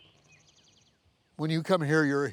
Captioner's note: birds chirping